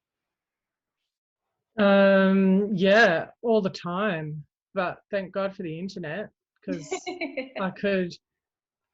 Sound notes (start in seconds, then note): 6.7 laughs